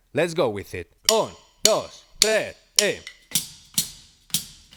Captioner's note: speaking in Spanish; upbeat percussion music